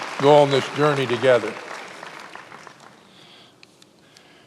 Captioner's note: many applauding